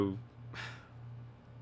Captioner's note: sigh